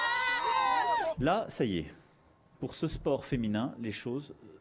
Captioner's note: cheers and Applause